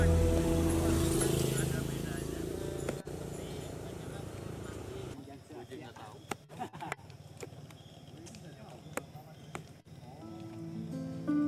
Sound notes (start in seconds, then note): 5.9 participants and guides having conversation in the middle of nature's sounds